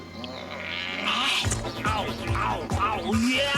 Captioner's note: growls